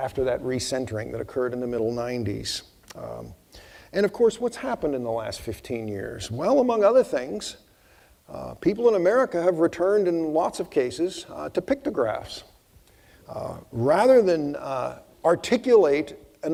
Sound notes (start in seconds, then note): none